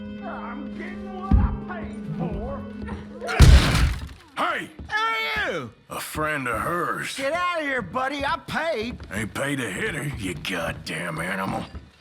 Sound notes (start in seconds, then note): 5.4 slurring heavily